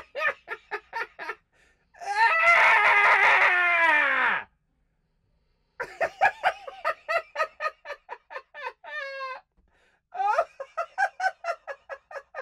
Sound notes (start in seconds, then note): 0.2 disgusted screaming; 4.0 cackling laughter